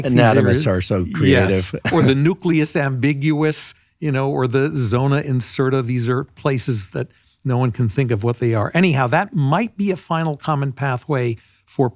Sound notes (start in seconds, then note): 1.3 laughing